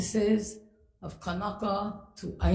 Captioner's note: speaks foreign language